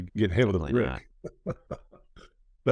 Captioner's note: laughs